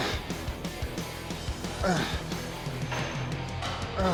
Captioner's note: Sheamus grunting; upbeat rock music continues